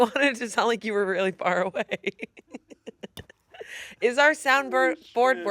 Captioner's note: laughs